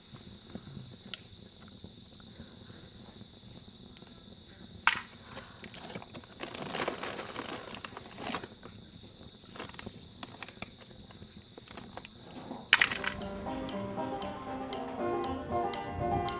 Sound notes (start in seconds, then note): 5.7 bag crunching; 12.9 upbeat banjo music